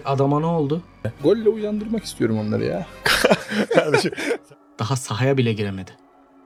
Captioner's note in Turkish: kahkaha